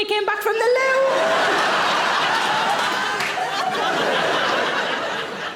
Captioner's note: audience laughing